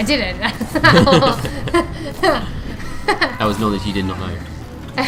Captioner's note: laughter